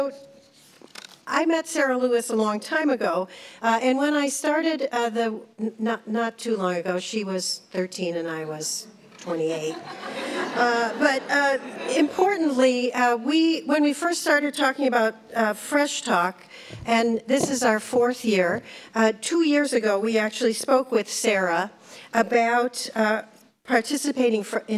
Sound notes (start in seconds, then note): 10.4 laughs